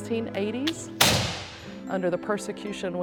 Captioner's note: gun banging